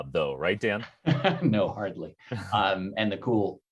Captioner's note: laughs